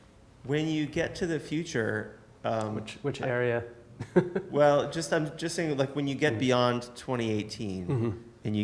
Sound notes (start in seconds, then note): 4.0 laughs